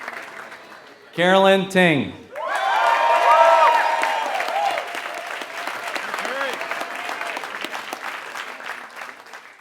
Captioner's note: applause